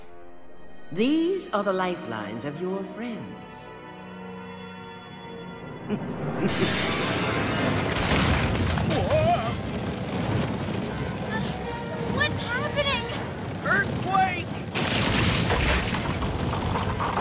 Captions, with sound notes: These are the lifelines of your friends. (Chuckling) (Rumbling) Whoa! What's happening? Earthquake.